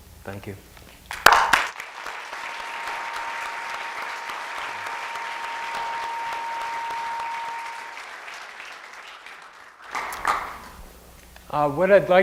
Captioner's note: applause